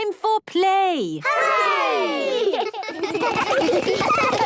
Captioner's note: laughter